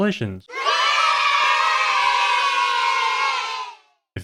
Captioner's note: kids cheering